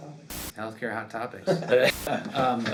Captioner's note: haha